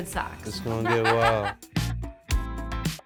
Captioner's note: chuckling; upbeat music